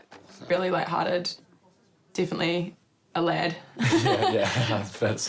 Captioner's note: both laugh